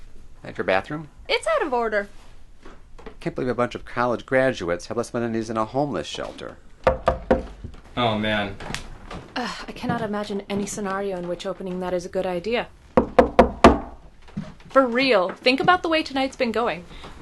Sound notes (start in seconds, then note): 6.8 knocking on the door; 12.9 knocking on the door